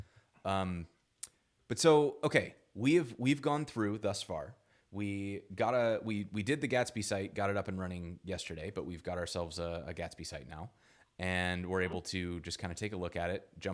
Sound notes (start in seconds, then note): none